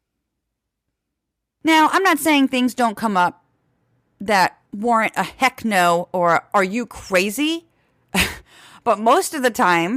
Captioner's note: laugh